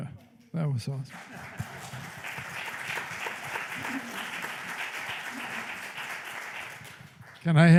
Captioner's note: applause